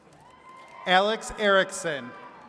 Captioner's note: attendees cheering